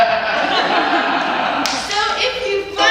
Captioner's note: laughter